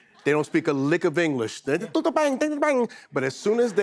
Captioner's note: speaking pretend language